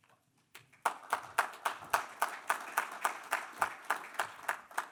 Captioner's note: audience applause